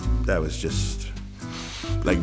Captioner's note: inhale